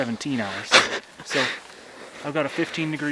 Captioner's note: laughing quietly